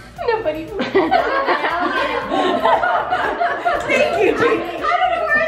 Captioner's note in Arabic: الجميع يضحكون